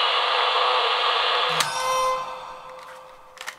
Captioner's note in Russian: Неизвестный писк